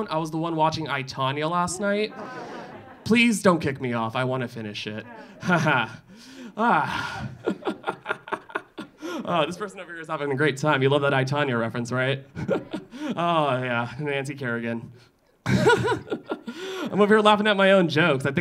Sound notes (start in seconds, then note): 1.6 audience laughing; 6.5 laughing; 15.5 laughing